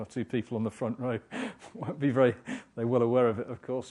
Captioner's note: laugh